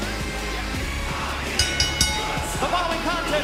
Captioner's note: bell ringing